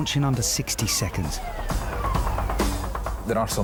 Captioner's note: siren blaring; lifeboat engine whirring